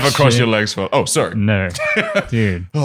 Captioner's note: laughs